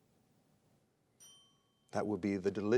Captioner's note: bell rings